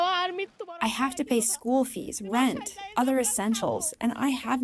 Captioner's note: through translator